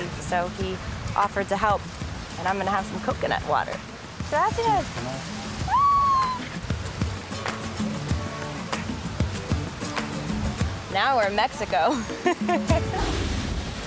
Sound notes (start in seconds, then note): 8.5 shrieks; 12.0 laughs